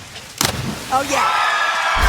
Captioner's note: wood smashing